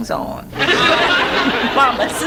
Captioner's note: audience laughs